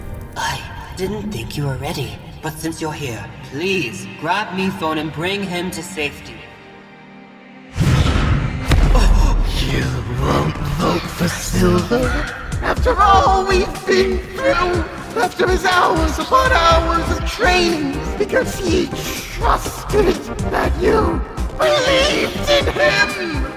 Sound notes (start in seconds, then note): 7.7 crash; 7.7 whoosh